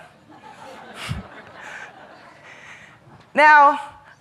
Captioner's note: audience laughing